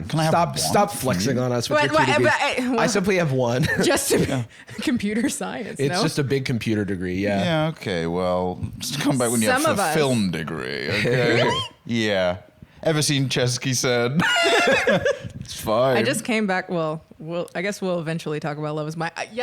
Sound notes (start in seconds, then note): 14.2 laughs